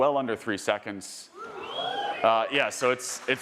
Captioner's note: audience cheering